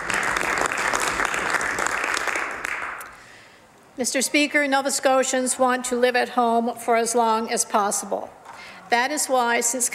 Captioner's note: some Applause